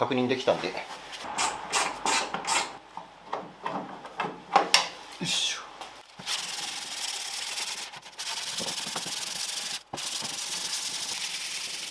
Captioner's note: working sound